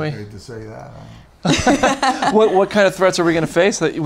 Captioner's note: laughing